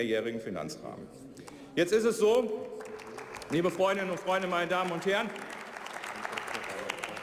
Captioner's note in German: Beifall bei der CDU/CSU